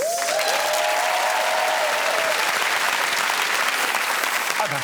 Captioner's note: applause